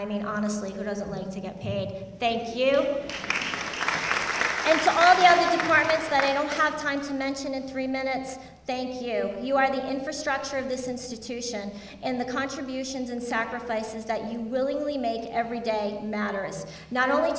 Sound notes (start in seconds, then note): 3.0 applause